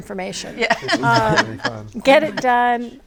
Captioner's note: all laughing